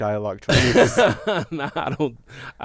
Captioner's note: laughter